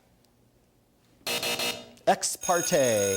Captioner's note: buzzer